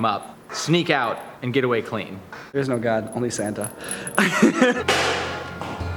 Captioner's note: laughing